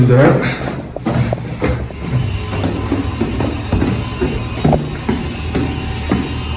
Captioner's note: footsteps